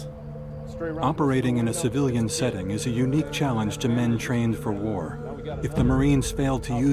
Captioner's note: voiceover